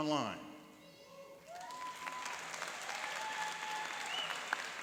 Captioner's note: cheering and applauding